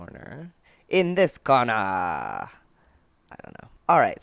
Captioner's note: old timey announcer voice for some reason